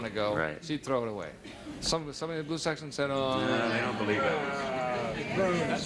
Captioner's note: groans